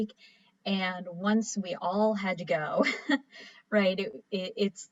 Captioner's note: chuckles